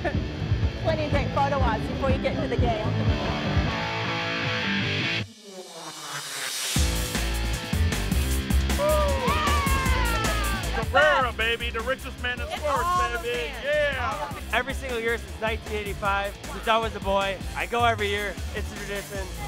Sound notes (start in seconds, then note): 8.7 cheering